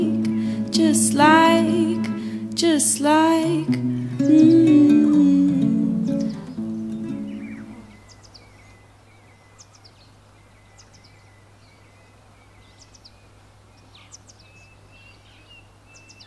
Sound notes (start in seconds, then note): 6.7 birds